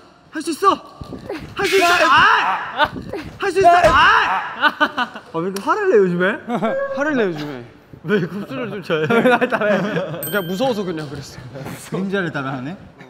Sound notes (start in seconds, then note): 3.4 shouts